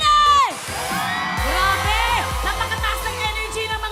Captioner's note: cheering